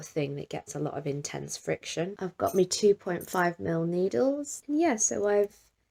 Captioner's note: needles clink